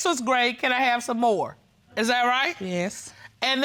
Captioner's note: judge dana reading